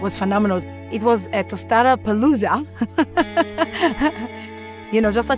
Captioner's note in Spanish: Laughs